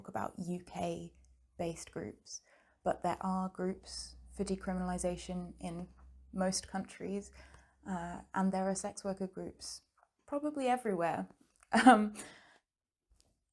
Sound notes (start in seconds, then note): none